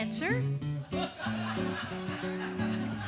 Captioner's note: audience laughs